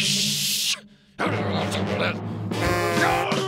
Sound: growling; honking

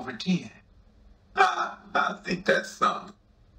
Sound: Ray laughs

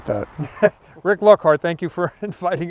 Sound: laughing

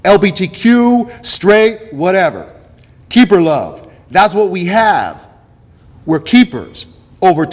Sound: none

